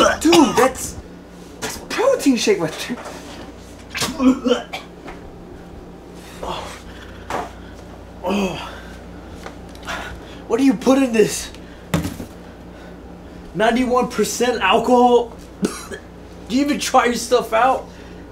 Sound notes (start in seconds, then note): 4.0 even more gaging noises; 6.4 grunting; 15.6 cough